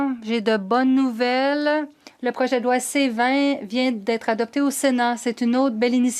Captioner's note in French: voix de l'interprète